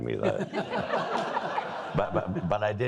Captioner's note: all laughing